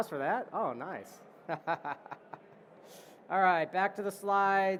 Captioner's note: laughter